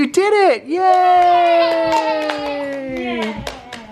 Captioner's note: cheering